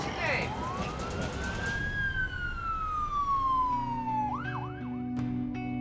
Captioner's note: sirens